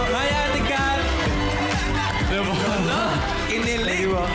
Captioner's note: laughs